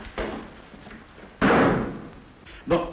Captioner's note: door slamming